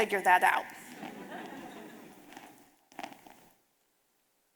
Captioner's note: audience laughing